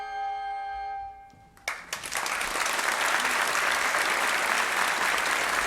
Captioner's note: audience applauding